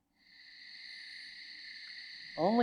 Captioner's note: crickets chirping